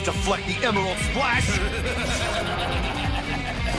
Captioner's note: laugh